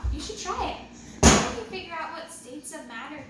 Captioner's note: pop sound